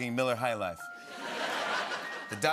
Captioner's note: laughter